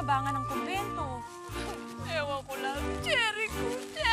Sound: sobs

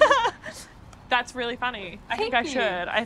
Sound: laughing

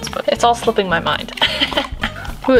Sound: chuckles

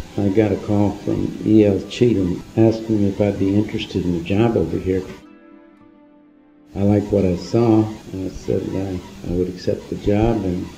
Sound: archival audio

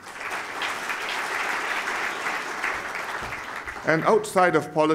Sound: applause

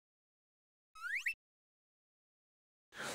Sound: alert

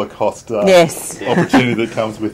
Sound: laughing

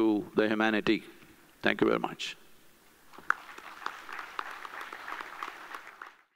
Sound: applause

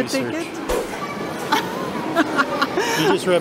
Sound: laughs

